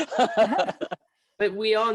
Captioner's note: laughing